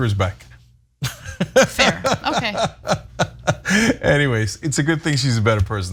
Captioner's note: laugh